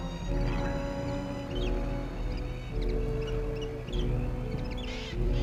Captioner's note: animals chittering